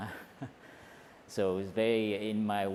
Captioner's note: slight laugh